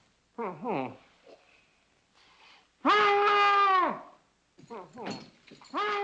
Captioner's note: shouting for the sheriff